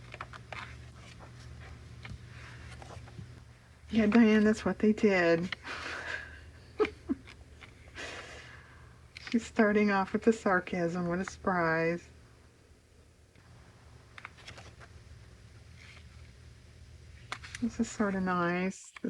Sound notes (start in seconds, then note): 8.3 laughs